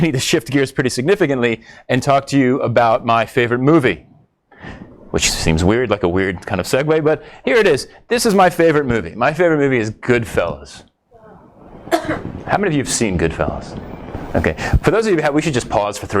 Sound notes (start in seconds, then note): 11.1 audience rumbles